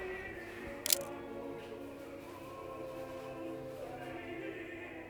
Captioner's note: camera shutter clicks